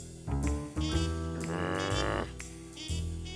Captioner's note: growls